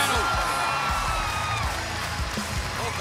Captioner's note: cheers and applause